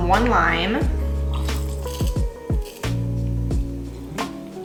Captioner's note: squeezing lime; soft music